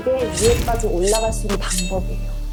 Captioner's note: ambitious sound effect